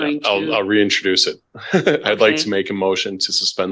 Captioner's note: laughs